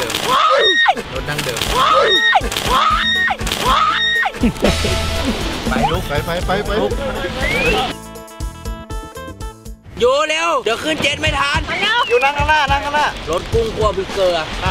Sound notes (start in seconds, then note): 0.2 screams; 4.5 laughs